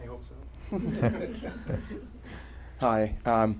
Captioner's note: laughter